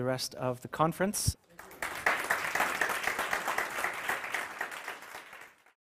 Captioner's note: applause